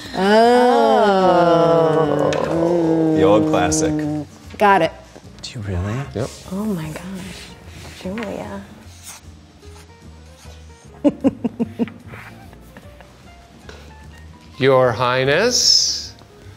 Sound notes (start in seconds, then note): 10.9 chuckling